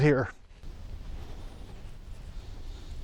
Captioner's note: panting